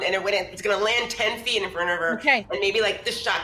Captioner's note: none